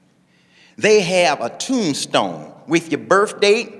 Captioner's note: none